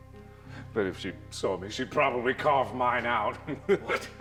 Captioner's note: laughs